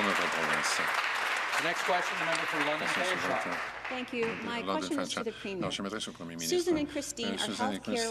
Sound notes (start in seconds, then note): 3.4 some Applause